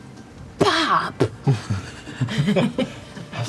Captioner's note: quietly; laughter